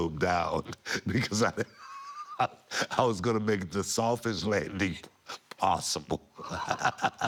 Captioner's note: laugh